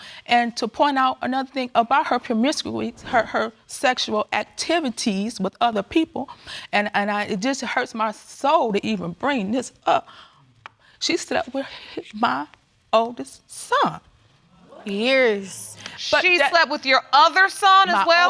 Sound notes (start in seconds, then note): 14.6 audience exclaiming